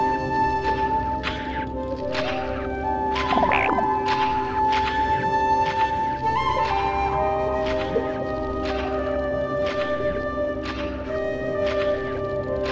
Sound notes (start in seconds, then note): 3.3 happy chirp